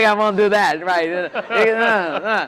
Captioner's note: laughter